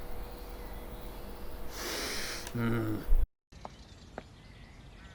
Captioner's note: big sniff